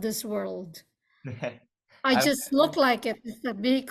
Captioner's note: laughs